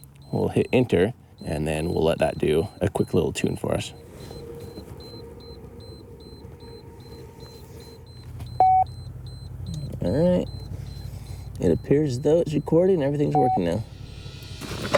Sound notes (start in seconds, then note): 8.6 magnetometer beeps